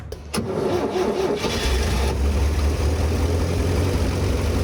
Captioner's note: engine cranking; engine revving